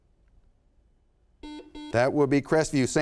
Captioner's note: buzzer sounds